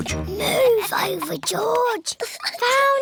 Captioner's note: whispers